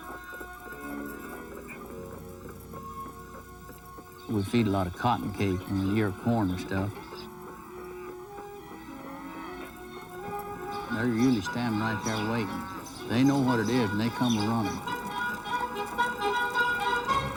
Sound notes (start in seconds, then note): 3.3 clopping; 10.3 cattle mooing